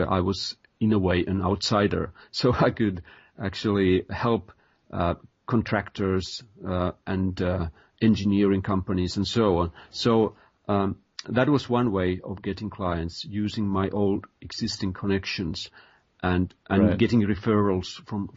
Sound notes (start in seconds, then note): 1.6 chuckle